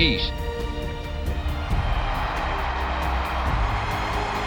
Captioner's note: applause